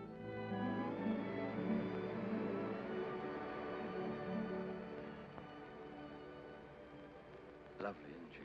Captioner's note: sentimental music; car hums softly